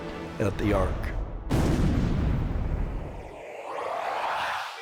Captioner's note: explosion